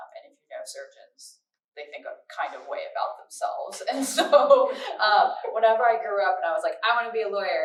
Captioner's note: laughter